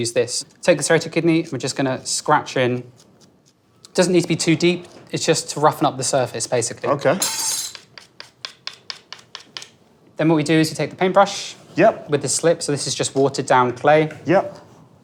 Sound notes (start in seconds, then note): 7.2 metal tool clangs